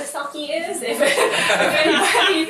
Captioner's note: crowd members laughing